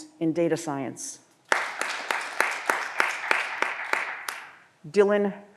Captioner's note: audience applause